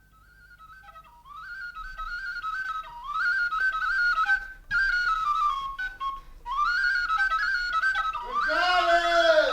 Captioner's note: song of a whistle